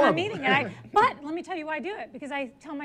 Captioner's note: laughs